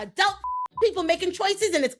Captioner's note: beep